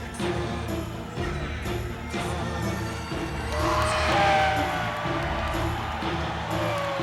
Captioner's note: crowd cheering